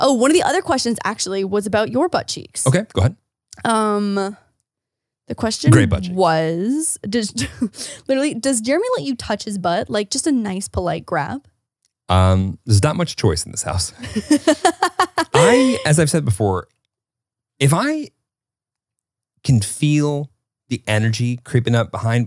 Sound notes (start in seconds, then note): 14.0 laughing